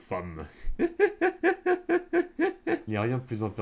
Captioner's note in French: Rires